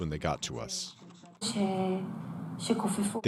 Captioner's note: non-english speech